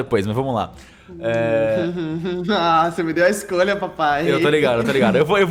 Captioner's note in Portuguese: Risos